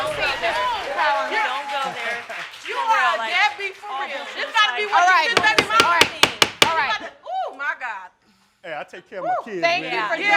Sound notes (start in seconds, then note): 5.3 bangs gavel